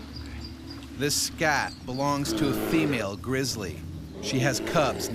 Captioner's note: voiceover